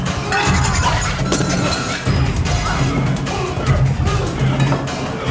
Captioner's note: glass shattering